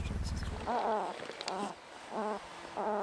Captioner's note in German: Gurrende Murmeltierlaute